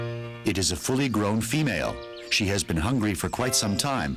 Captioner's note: birds chirping